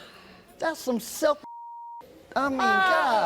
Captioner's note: beep